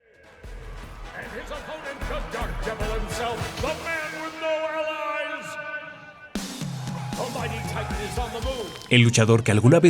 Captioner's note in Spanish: Ruido de Estadio